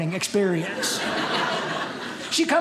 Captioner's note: audience laughing